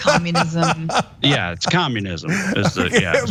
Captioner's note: laugh